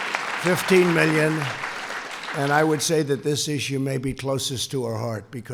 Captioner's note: applause